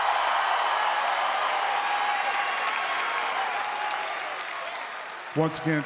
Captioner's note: applause